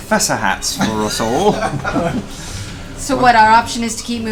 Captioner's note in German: Gelächter